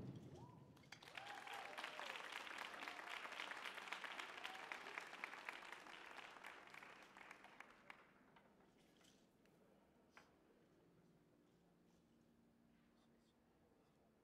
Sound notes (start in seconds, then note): 0.9 audience applauding